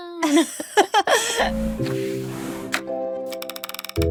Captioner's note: both laughing